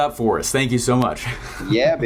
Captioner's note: chuckles